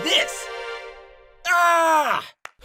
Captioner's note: he scream